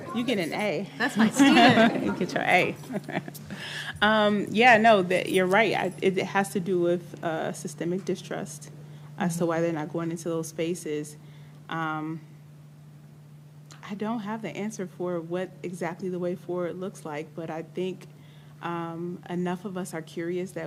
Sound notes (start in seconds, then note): 3.7 laughs